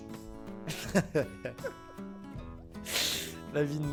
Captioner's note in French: rire